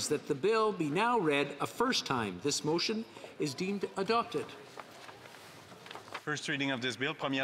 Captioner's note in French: voix de l'interprète